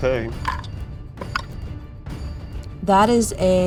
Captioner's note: die rattling